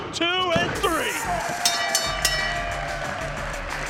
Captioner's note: bell rings